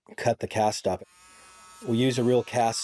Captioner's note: saw whirring